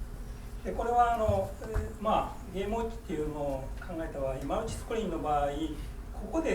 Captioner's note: speaking in foreign language